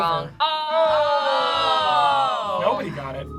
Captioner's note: group awes